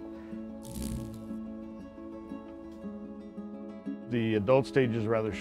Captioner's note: laughing; beetle buzzing